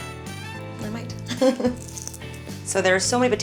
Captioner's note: laughs